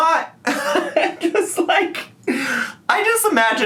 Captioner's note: man laughing